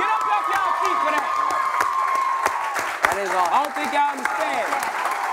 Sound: cheers and applause

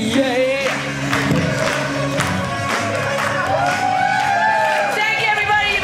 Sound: audience cheering

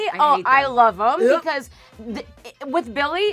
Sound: gagging noises

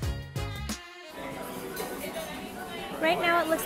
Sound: people chattering

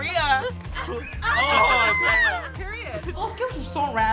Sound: screaming

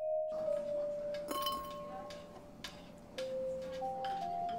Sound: light music; clinking

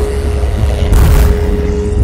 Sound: bam

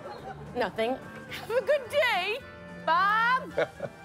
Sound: voice breaking; chuckles

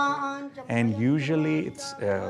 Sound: chanting

